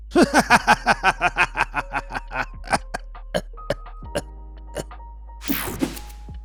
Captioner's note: narrator coughing; narrator maniacaly laughing; page whooshing; page swishing